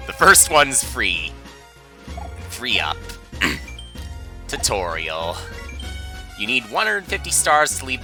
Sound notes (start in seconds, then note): 3.4 clears throat